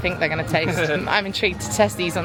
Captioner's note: laughing